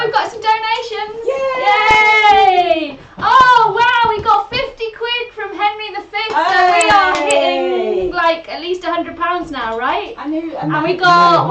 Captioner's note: they cheer